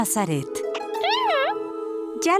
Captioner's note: caterpillar noises